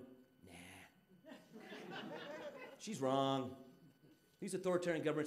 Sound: audience laughing

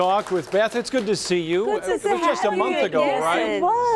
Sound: applause

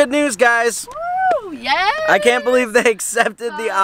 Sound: cheers

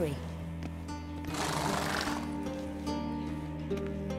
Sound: horse blows

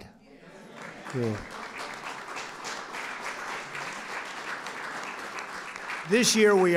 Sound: applause

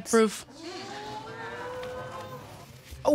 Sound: woman exclaiming

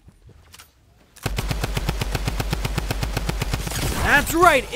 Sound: gun clicks; gun bangs

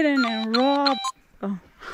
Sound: camera bleeping

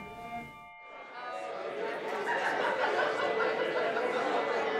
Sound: crowd chattering

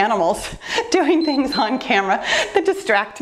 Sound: timer beeps

